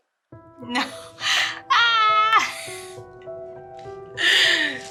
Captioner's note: screams